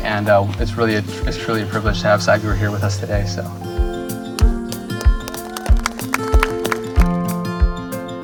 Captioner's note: applause